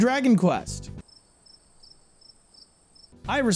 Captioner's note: cricket noises